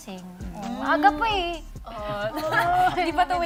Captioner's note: laughs